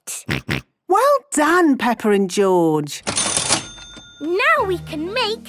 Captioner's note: till rings